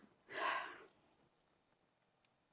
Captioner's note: sighing